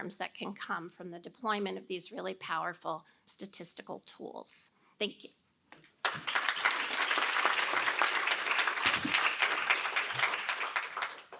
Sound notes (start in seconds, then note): 6.0 applause